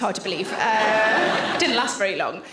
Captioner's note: audience laughs